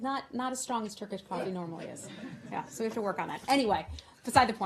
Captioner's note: laughter